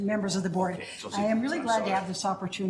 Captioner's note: speaks faintly